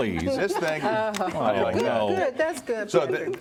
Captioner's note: laughter